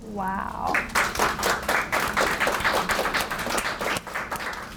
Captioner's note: audience applauds